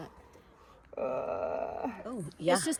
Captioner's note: moan